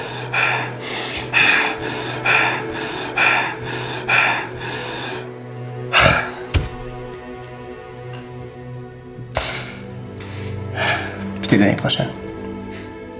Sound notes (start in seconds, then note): 0.3 Hugo breathes heavily, experiencing a panic attack; 5.9 he sighs; 9.3 sighs again